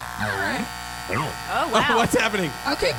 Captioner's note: SFX: Electric clippers buzzing